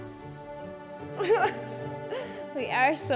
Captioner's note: both chuckling